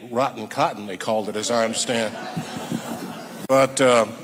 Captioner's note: audience laughing